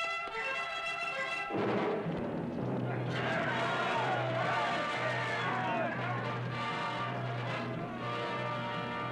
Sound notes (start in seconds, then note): 3.6 yelling